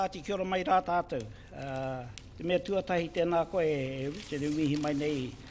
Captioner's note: speaking in foreign language